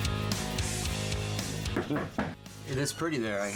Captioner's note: door knock